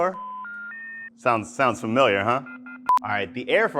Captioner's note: telephone sounds